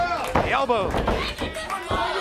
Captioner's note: crowd chatter